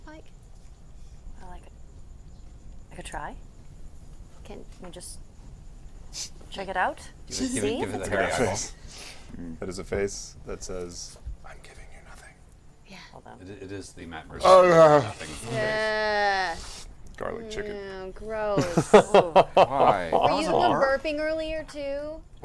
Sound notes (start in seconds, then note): 14.3 groans